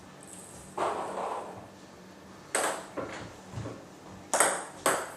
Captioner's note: balls ping pong hitting continues